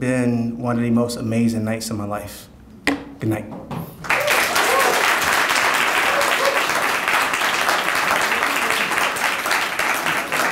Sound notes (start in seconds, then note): 4.0 audience cheering and applauding